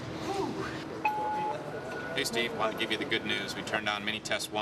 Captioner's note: on phone